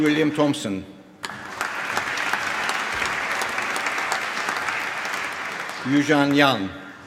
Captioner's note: applause